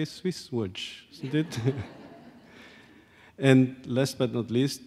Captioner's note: audience laughs